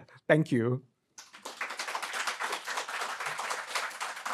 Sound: crowd applauds

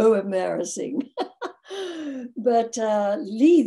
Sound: laughs

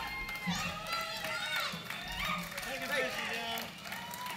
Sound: clapping

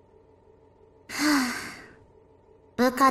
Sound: sigh

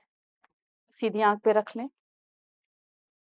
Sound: in Urdu

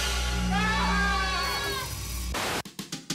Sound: <i> all screaming</i>

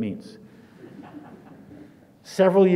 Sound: audience laughs

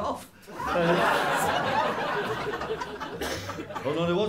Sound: laughter

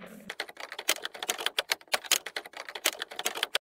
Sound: sound of typing

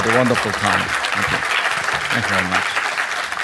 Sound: audience clapping

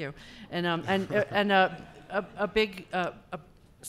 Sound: laughing

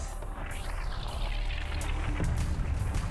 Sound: explosions

